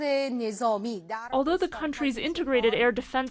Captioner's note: through translator